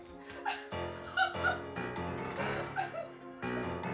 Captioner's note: woman sobbing